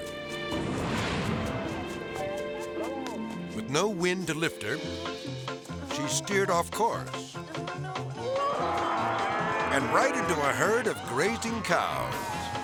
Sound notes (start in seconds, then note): 0.2 tranquil music; 8.2 woman screaming; 9.4 cows mooing; 9.7 melodic music; 12.3 playful music